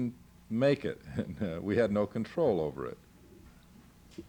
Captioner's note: laughing